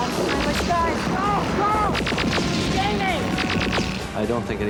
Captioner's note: guns zapping